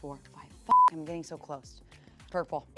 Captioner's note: beep